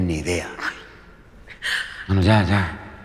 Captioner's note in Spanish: Sollozos